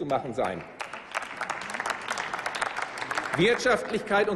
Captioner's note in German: Applaus